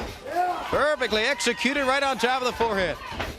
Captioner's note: crowd cheering